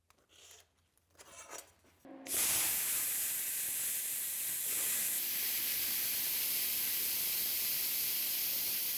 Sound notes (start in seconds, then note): 2.3 sparks hissing